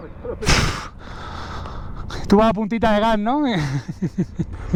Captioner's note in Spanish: risas